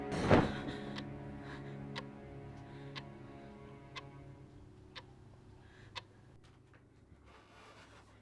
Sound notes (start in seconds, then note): 2.3 clock ticking